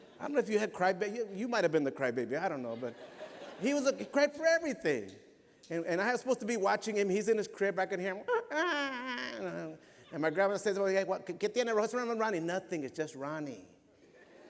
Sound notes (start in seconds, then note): 9.2 mimics baby crying